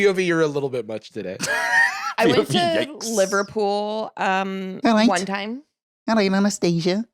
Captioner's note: laughs